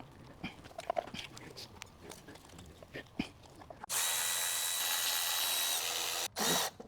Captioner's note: drilling